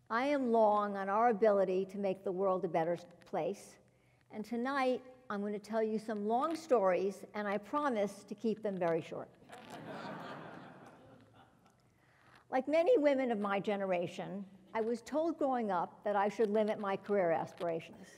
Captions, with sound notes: I am long on our ability to make the world a better place. And tonight, I'm going to tell you some long stories, and I promise to keep them very short. >> [LAUGH] >> Like many women of my generation, I was told growing up that I should limit my career aspiration.